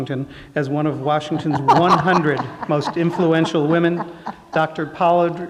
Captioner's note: laughter